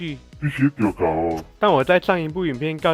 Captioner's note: in Taiwanese Hokkien dialect